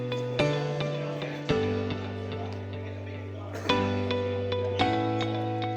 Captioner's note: background chatter; # uplifting music #